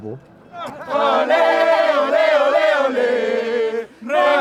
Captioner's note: chanting